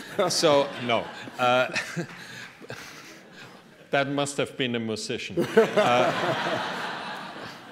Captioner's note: audience member clapping